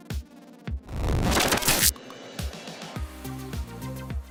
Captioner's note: static hisses; electronic music